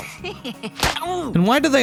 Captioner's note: Fry snickers; smack 2